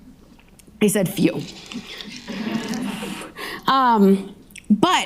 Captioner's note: audience laughing